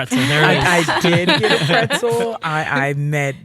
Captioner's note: all laughing